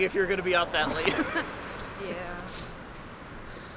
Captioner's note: Leon laughs